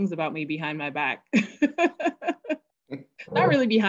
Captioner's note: laughing